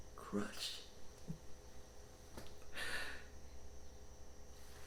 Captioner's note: insects chittering